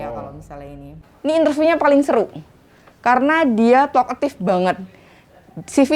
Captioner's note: excited